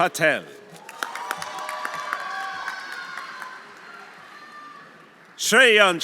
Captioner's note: audience applauding; audience cheering